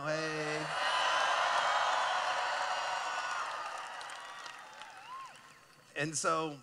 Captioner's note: cheering